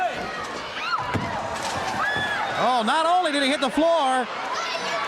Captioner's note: crowd chatter